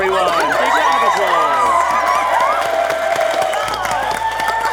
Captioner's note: audience cheering